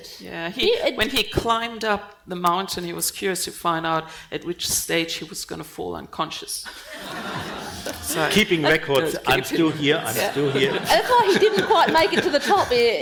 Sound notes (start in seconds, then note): 6.8 panel and audience laughing